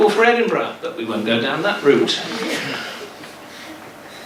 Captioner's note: giggles